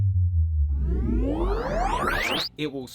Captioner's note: powering Up Sound